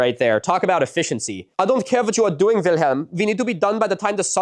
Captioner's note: bad German accent